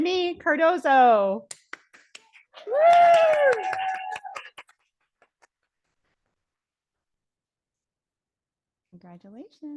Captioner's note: audience cheering